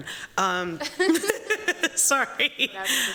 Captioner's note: laughter